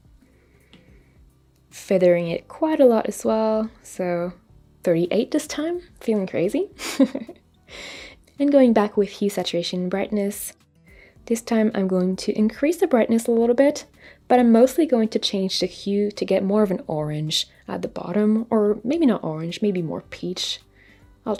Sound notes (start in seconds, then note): 6.8 chuckles